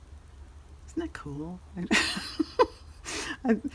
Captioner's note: laughs